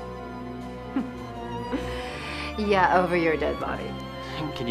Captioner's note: laughs